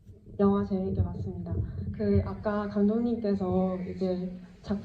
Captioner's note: speaks in foreign language